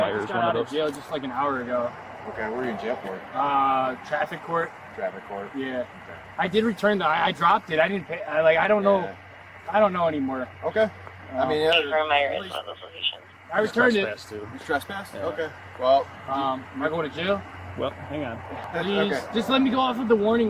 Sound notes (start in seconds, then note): 10.4 radio chatter